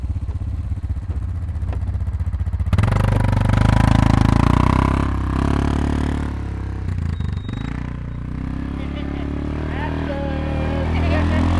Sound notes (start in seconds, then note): 8.6 laughing